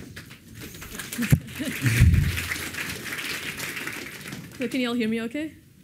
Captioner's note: applause